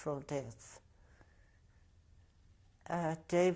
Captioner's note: pauses for 3 seconds